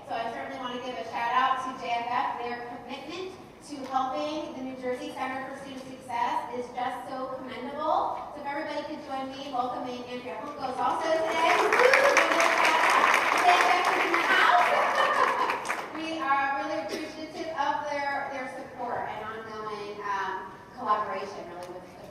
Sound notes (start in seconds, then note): 11.2 drowned out by applause; 16.2 laughing